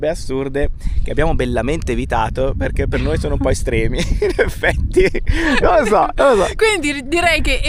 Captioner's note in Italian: risate